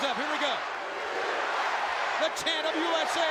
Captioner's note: crowd chants "USA"